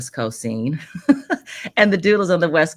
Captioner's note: chuckles